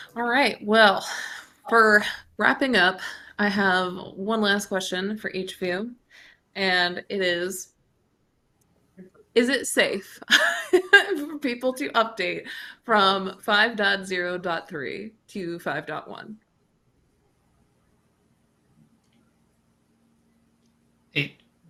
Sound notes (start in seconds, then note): 9.6 chuckles